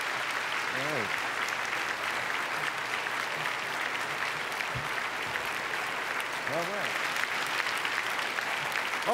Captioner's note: applause; applause fade